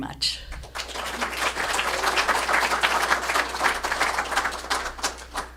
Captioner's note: applause